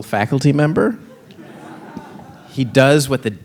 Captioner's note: audience laughing